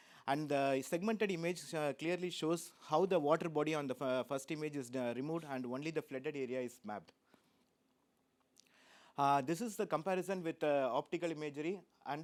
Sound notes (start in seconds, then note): none